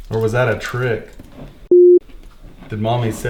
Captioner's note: beep